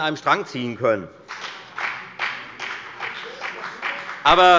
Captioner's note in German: Beifall bei der FDP